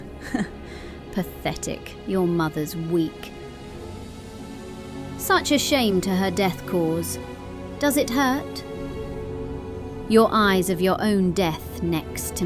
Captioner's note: scoffs